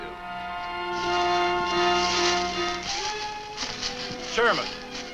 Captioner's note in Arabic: حفيف الأوراق